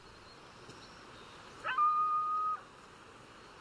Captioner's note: howling